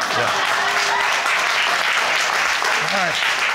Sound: audience applauding

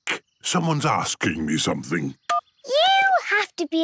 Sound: phone beeps

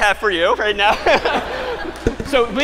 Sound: laughter

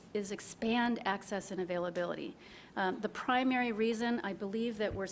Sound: none

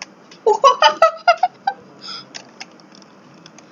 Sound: laughing maniacly

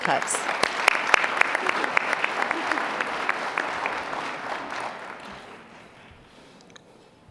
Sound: applause

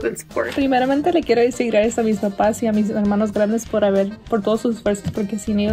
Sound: speaks in foreign language

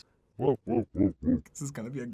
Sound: descending laughter

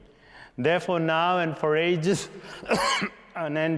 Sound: coughing

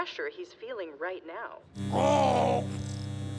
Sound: electricity buzzing

